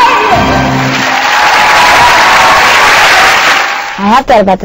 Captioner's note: crowd cheering